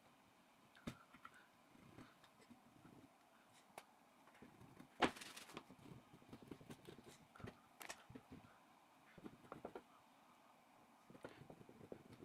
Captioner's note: pause